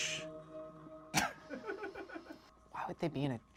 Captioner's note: laughs